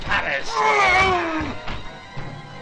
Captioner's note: howling